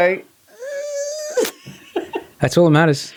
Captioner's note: laughing